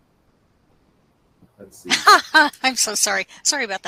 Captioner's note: chuckles